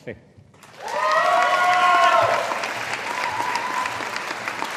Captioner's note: audience applauding